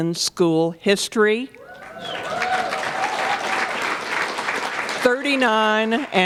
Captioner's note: applause